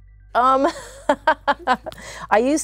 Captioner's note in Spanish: ríe